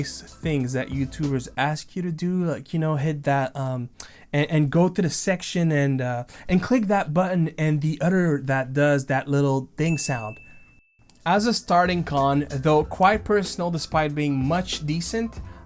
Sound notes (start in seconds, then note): 9.8 ding